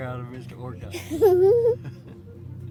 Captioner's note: giggles